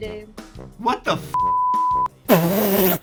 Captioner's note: beep; laughs